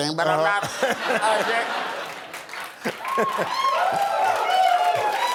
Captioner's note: laughter